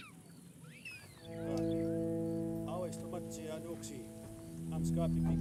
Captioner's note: speaking in Blackfeet